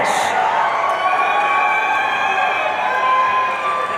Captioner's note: audience cheering